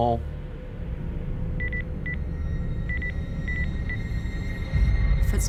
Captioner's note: tracker beeping